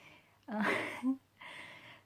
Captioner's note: laughs